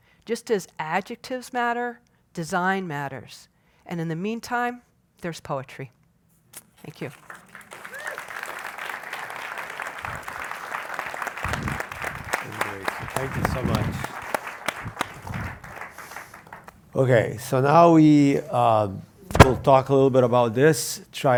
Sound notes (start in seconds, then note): 7.0 applause